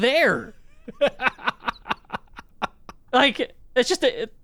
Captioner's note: laughs